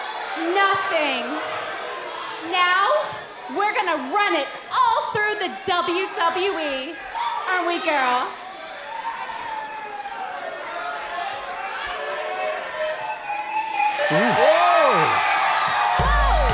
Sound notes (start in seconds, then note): 9.2 crowd chatter